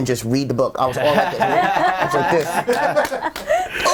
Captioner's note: all laughing